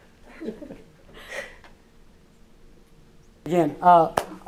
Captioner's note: laughs